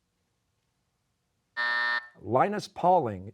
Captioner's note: buzzer